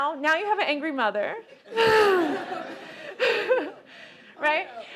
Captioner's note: laughter